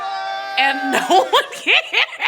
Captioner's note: cheering; laughing